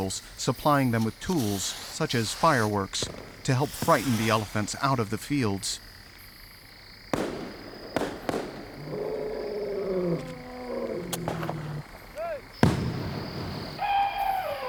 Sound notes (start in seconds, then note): 6.1 fireworks popping; 9.5 elephants trumpeting in distance; 12.2 fireworks boom, elephant trumpets loudly